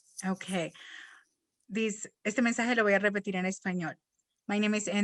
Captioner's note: speaking in Spanish